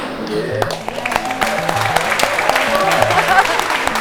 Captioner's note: applauds